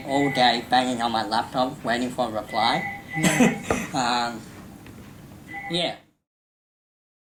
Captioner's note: laughs